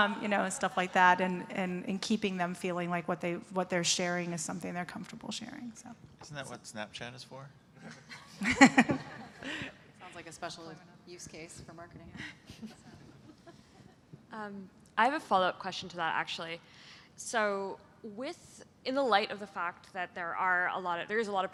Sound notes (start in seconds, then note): 7.8 laughter